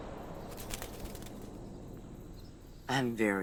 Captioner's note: wings flutter